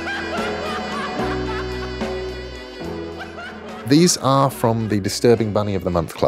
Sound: singer laughing

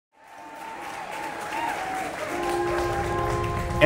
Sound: audience applause

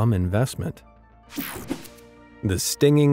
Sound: picture whooshing

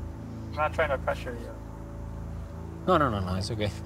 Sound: man in English

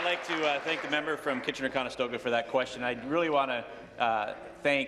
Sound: cheers; applause

